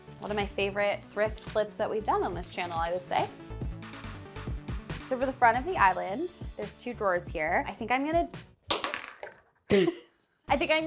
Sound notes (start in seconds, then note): 8.7 object clatters; 9.7 laughing